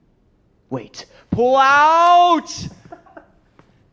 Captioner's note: laughing